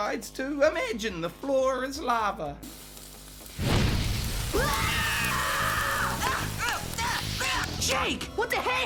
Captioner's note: Finn Screams And Burns